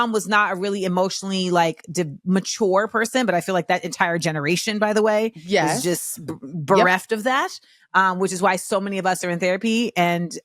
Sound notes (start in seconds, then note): none